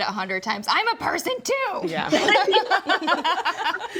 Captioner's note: group laughs